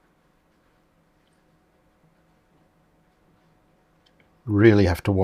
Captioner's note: silence